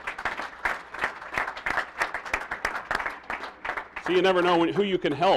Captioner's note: applause